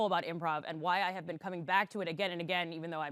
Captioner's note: none